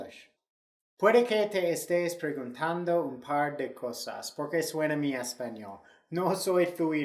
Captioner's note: speaking Spanish